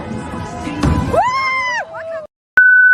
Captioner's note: screams